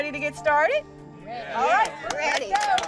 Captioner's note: clapping